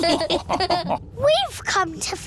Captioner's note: all laughing